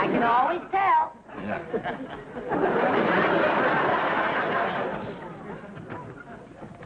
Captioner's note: audience laughing